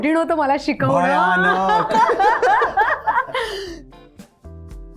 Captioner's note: laughs